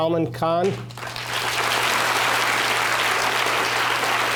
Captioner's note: applause